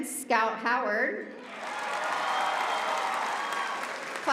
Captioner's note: applause